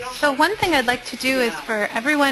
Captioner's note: voiceover